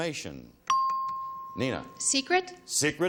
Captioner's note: chimes